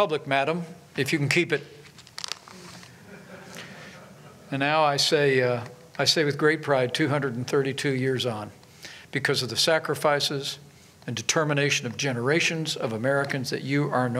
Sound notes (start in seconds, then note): 2.9 laughter